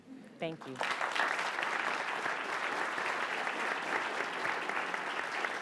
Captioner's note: audience applauds